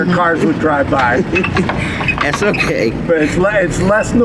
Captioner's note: laughs